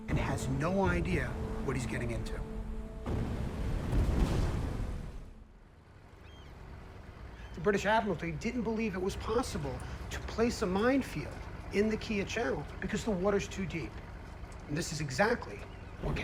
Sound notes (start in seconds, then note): 3.0 explosions booming; 6.1 birds cawing